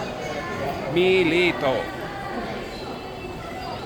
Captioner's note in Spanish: Taiwanese